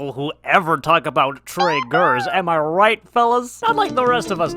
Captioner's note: Blue's Clues sound effect